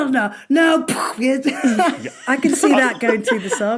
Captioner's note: imitates blast